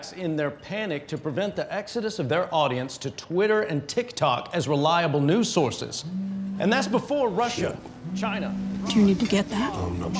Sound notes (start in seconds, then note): 6.0 phone vibrating